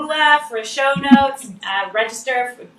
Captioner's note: laughs